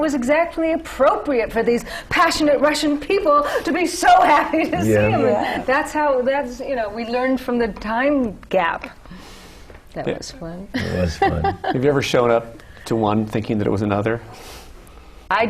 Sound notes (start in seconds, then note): 10.7 laughter